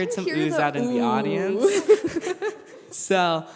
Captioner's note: laughter